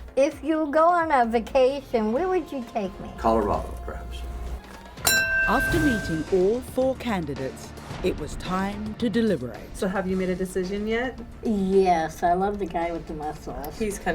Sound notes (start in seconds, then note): 5.0 bell dings